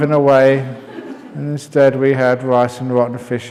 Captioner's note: laughter